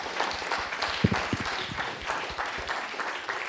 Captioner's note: applause